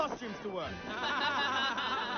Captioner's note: laughter